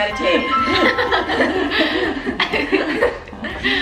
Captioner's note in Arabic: الكل يضحك